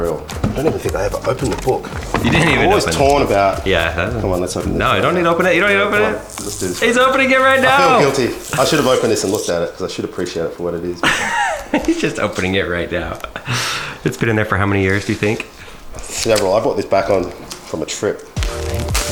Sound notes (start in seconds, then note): 11.0 laughs; 18.4 soft techno music